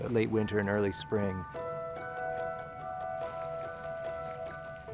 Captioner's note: whimsical music; camera shutter clicking